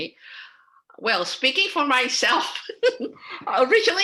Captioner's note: laughing